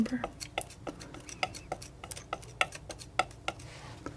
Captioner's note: tapping